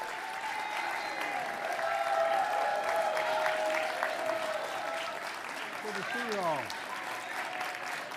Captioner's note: applause